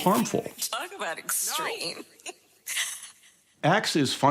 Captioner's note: chuckles